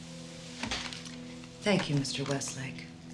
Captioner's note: clicks tape recorder